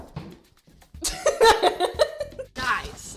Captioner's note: laughs